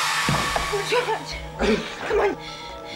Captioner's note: eerie screeching music; Martin gasping